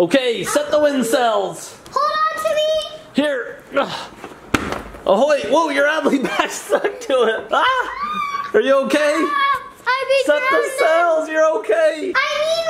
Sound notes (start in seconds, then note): 4.5 pillow flops; 7.7 screams